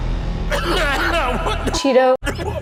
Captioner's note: coughing